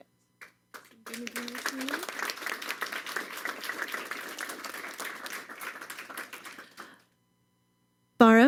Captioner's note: applause